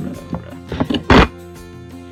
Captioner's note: glass shifts again